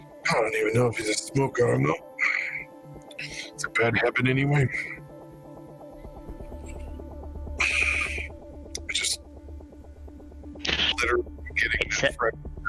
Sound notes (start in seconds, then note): 7.6 breath